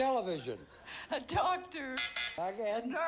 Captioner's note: buzzer sounds